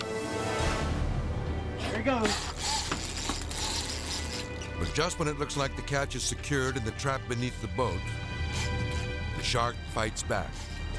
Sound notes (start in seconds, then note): 0.1 tense music; 2.2 reel clicking